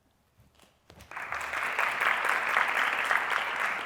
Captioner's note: applause